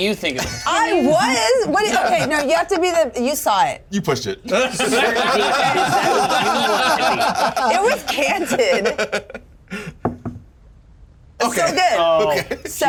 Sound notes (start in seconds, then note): 4.5 laugh; 9.9 die thumps